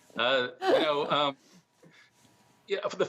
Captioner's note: laughter